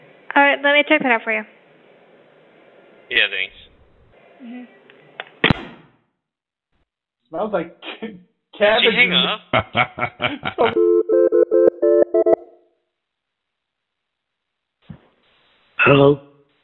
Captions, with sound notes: Alright, let me check it out for you. Yeah, thanks. Smells like cabins. Did she hang up? [Laughter] [Phone ringing] Hello?